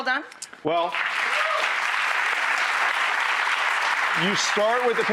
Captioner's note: audience applauding